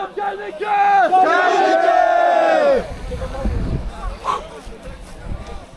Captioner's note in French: cris de victoire